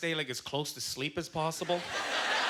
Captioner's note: audience laughter